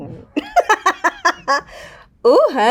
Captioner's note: Raven-Symone laughing